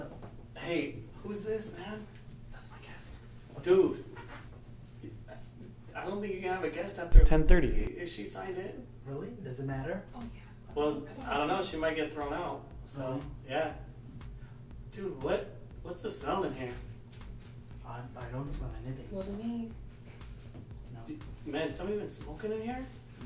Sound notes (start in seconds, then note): 2.4 whispering; 13.9 smelling